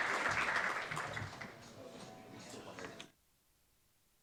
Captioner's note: applause